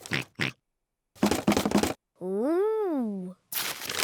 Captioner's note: oinks; rattles